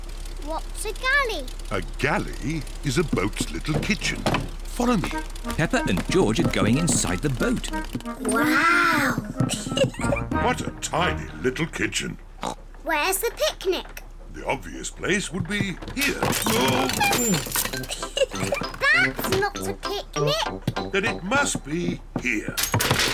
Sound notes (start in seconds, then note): 12.4 oinks; 17.8 giggles